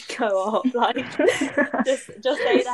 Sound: laughter

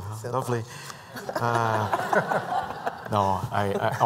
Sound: laughter

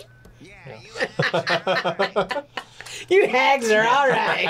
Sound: both laugh

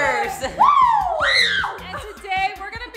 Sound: cheering

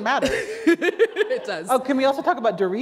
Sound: laughter

